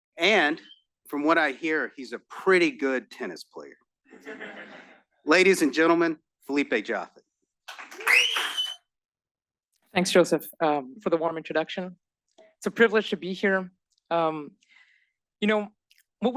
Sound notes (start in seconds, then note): 4.2 laugh; 7.6 applause